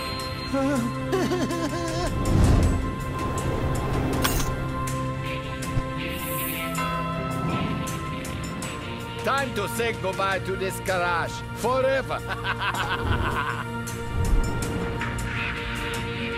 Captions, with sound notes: - Time to say goodbye to this garage forever (laughs). (epic music)